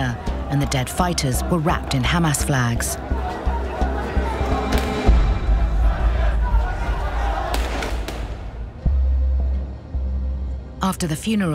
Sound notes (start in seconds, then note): 4.3 gunfire in distance